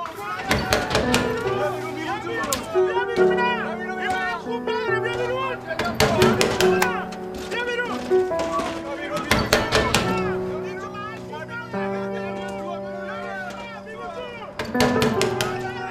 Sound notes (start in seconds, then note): 0.1 knocking the door-shouting; 9.2 door knocking; 12.9 knocking the door-shouting